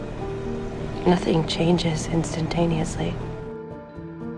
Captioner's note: voiceover